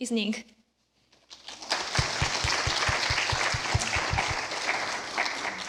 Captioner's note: applause